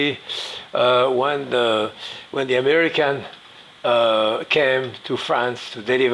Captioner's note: sniffs